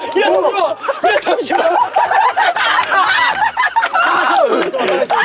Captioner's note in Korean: Инээд алдахдаа хоолой боогдох